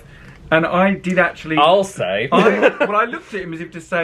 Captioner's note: laughs